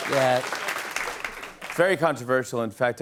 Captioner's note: As Trump; normal voice